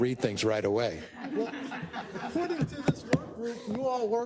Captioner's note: laugh